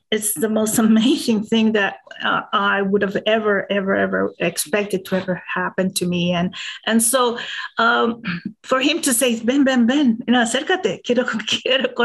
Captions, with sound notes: is the most amazing thing that I would've ever, ever, ever expected to ever happen to me. And so for him to say, (speaking in a foreign language)